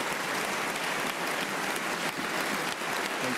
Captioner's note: applause